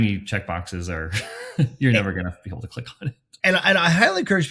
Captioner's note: chuckles